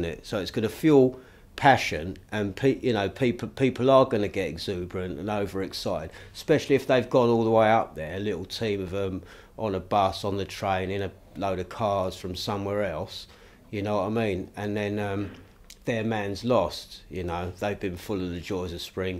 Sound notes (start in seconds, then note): none